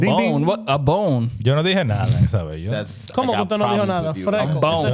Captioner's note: speaking In Foreign Language